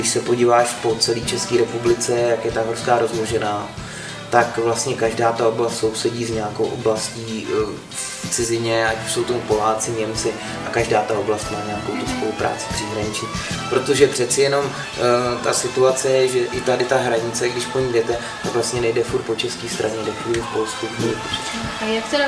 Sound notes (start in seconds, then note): 9.6 polish/German